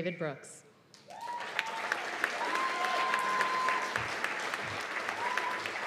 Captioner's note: cheers and applause